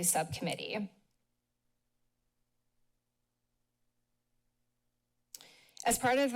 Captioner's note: silence